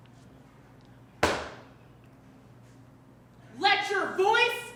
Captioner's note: foot thuds